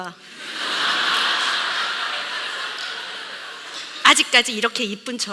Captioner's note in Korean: 웃음